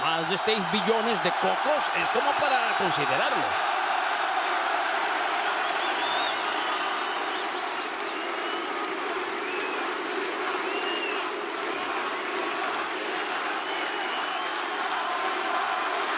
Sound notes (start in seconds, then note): 3.6 applause